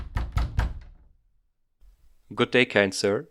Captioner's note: knocking sounds